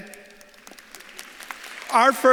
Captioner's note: audience clapping